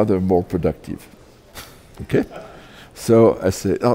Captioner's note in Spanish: Risas